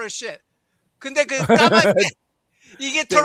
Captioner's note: non-english speech